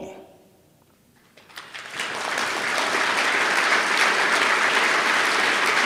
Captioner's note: applause